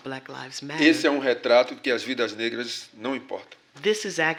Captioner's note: speaking portuguese